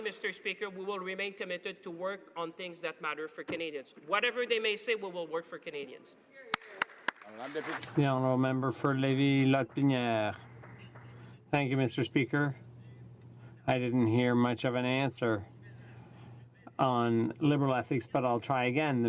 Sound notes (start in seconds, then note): 14.6 speaking French